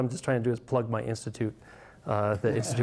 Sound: audience laughs

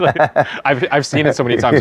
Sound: laughing

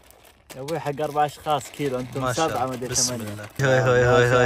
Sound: Arabic

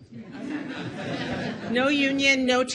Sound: audience laughs

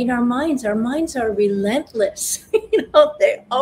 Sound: laughs

